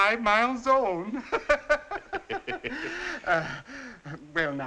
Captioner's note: all laughing